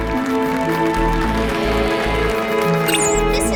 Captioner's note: applause